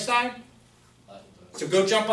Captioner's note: voiceover